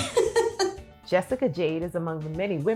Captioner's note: laughing